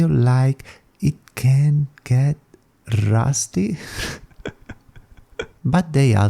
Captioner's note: laughs